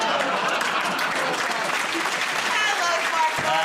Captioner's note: laughter; applause